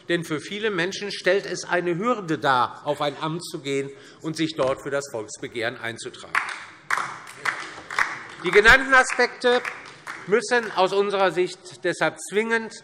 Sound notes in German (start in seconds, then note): 6.3 Beifall DIE LINKE